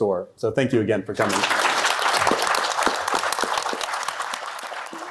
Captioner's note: applause